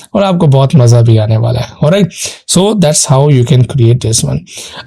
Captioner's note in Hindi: नाक से की जाने वाली आवाज़